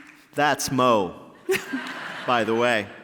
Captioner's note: laughter